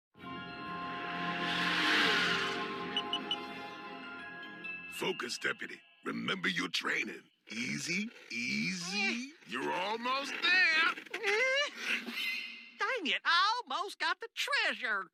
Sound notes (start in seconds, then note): 2.1 scanner beeping; 11.9 frustrated grunt